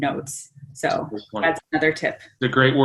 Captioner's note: faintly speaking